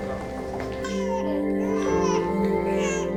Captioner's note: baby cries